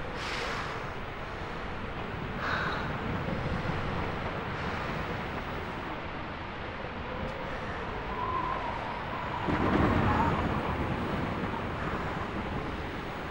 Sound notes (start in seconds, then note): 7.9 wind whistling; 9.4 thunder rumbling